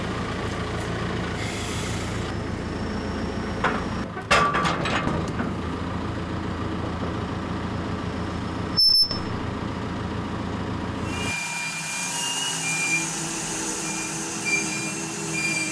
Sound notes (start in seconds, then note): 4.1 track frame clangs; 11.0 bandsaw mill whirring